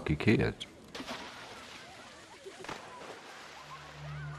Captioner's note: splashing